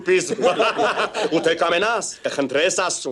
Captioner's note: haha